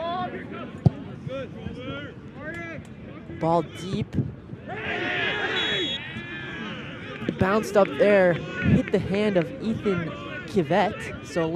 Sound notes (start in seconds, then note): 4.2 shouting; 5.5 whistle blows